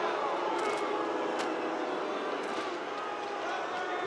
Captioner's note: crowd booing